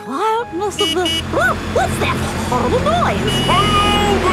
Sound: honking

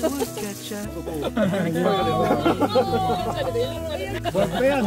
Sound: laughing out loud

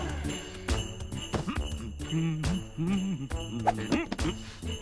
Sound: humming

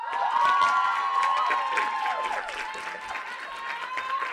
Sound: audience applauding

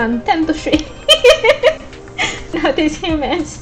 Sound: laughs

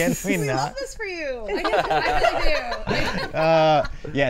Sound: laughs; all laughing

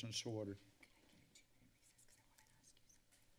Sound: whispers

